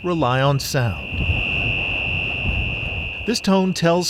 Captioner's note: buoy beeping shrilly